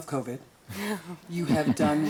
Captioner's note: group laughs